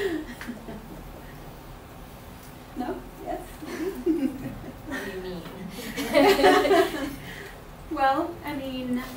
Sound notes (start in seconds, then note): 0.0 laughs; 5.8 laughs